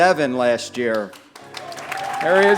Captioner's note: applause